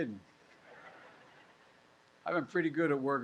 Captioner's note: laughter